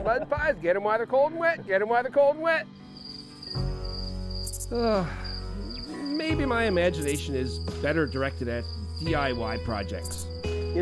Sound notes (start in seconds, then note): 3.1 cricket chirping; 4.7 sighing